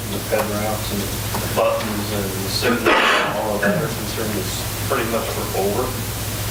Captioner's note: coughing drowns out words